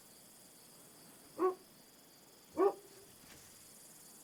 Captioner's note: dog barking